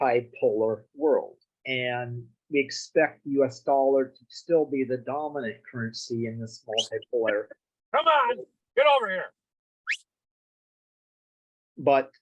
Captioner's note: whistle